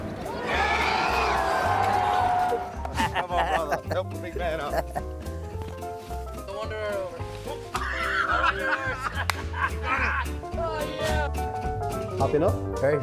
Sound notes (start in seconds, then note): 0.2 cheering; 7.7 laughs